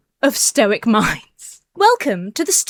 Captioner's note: laughs